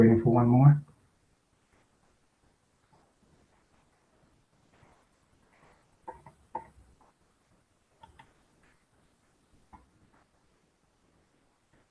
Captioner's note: pause